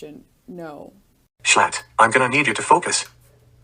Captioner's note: text-to-speech voice